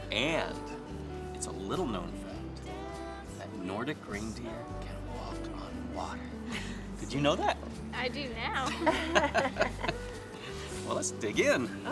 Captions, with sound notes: And it's a little-known fact that Nordic reindeer can walk on water. Did you know that? - I do now. (laughing) - Well, let's dig in.